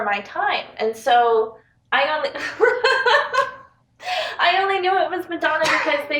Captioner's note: laughs